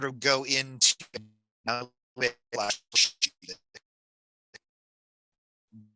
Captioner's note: sputtering